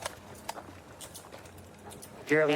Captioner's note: handcuffs clicking